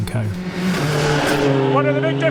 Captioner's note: engine rasping